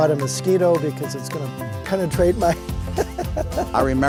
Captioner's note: laughs